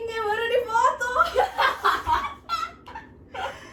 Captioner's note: all laughs